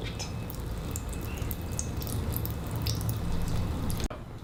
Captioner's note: sound of milk leaking on the floor